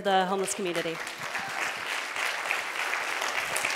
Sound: applause

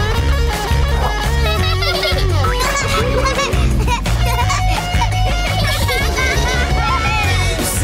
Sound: laughing

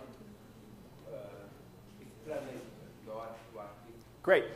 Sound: speaking faintly

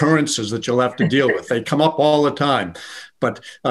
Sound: laughing

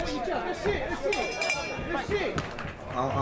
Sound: bell ringing, crowd clapping

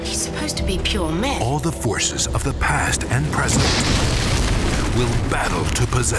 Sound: voiceover

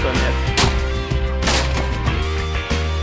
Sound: guns firing

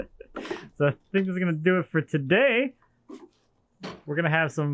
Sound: laughs

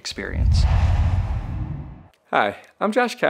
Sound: logo swooshes

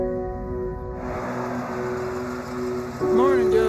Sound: car engine humming

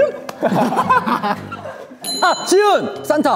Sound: laughing out hard

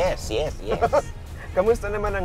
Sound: chuckles

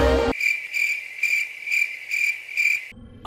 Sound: crickets chirp

